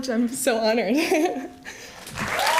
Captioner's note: applause